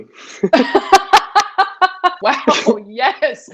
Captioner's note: both Laughing